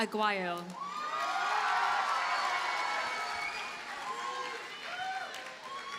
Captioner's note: audience cheers and applauds